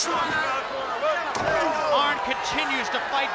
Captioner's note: wrestlers grunting; cheering drowns out wrestlers